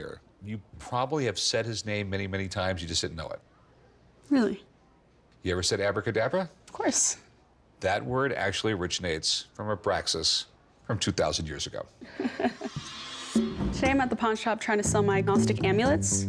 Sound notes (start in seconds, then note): 12.0 laughs